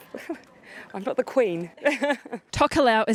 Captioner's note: laughs